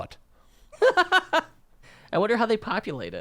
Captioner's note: laughs